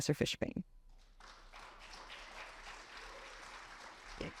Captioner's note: audience clapping